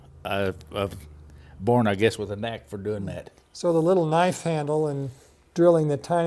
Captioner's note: none